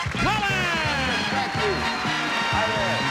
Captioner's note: cheers and applause